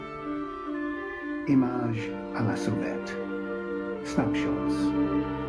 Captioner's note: french